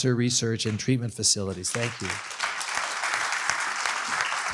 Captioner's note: applause